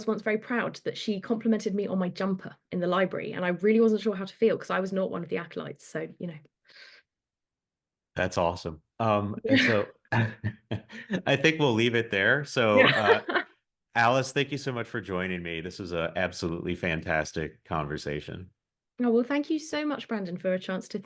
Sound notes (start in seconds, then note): 10.1 polite laughs; 12.7 laughs